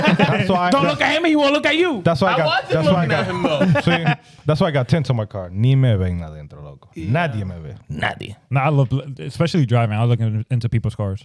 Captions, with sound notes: (Laughing) Don't look at him, he won't look at you. That's why I got-- I was just looking at him though. That's why I got 10 times my car. (Speaking In Foreign Language) Nadia, maybe. Nadia. Nah, I love, especially driving, I was looking into people's cars.